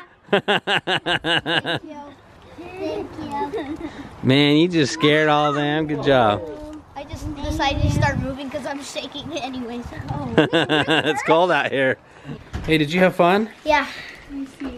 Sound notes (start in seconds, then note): 0.3 laughs; 10.2 laughs